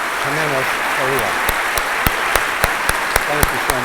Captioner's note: applause